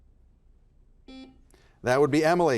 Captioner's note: buzzer buzzes